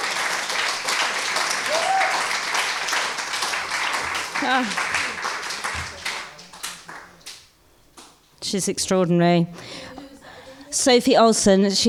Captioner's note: applause